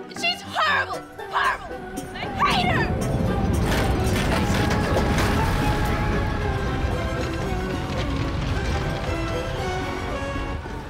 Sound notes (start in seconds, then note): 2.9 rumbling noises; 6.7 whimsical music